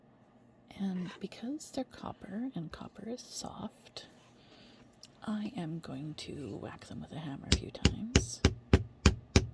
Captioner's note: muted tapping noises